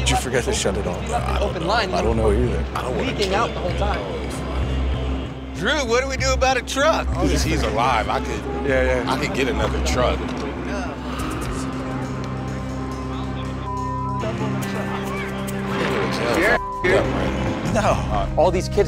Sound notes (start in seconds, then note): 16.4 beep